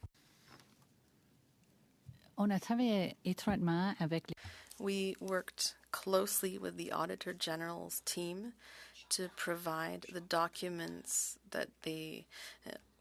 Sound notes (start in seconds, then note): 9.7 speaking French